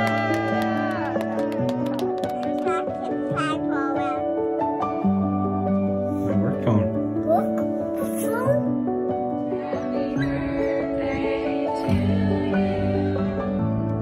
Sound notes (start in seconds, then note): 0.0 people cheer; 3.3 child babbles